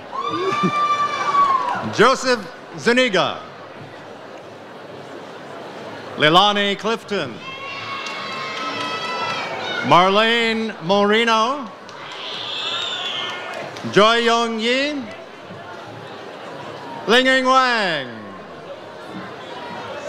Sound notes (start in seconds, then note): 0.0 audience cheers; 7.4 audience cheers